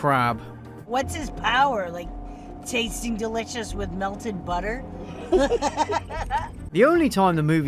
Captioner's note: moronic laughter